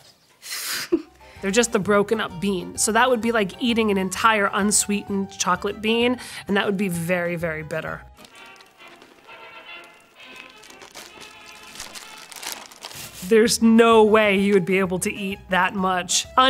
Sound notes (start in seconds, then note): 0.5 lady with scarf chuckles; 8.1 jaunty music; 8.2 plastic rattling